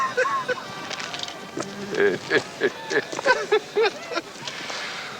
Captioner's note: Joe chuckles; Charlie laughing